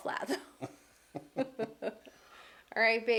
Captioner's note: laughing